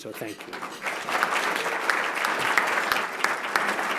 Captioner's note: applause